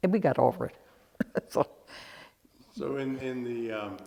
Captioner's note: laughs